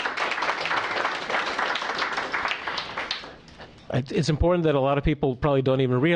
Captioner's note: applause